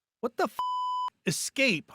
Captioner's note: beep